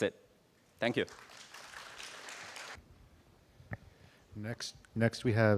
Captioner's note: applause